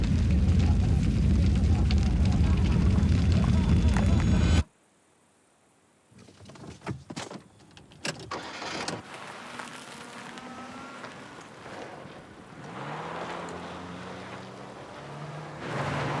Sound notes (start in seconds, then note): 0.1 boy laughing; 3.9 hands clapping; 9.1 engine revving; 12.5 tires screeching softly